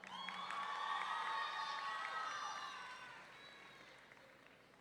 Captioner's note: audience cheering